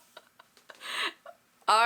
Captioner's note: laughs